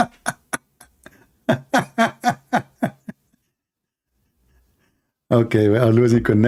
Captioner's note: Ketawa